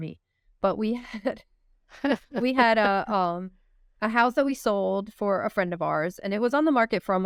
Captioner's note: laughter